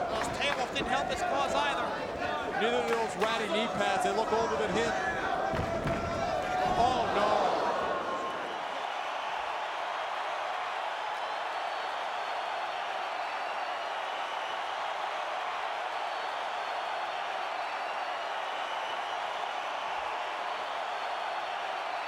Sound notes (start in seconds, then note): 8.4 crowd cheering